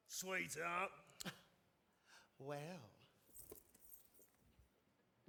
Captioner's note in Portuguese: laughs